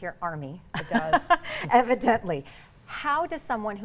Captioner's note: laughs